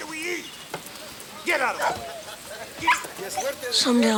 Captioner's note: dogs bark